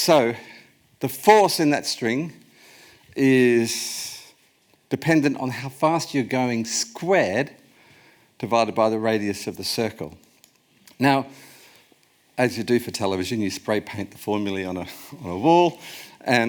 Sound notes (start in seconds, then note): none